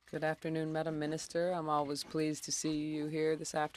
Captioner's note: speaking French